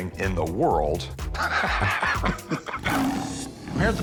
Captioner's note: lion roars; both laugh